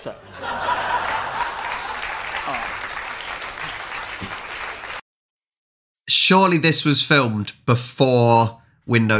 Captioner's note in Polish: Aplauz